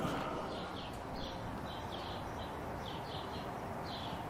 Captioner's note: awakened birdsong